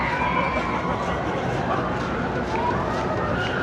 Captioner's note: screams